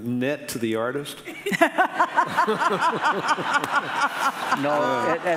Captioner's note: audience laughing